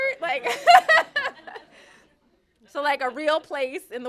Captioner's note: laughter